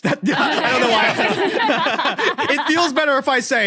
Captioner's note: group laughing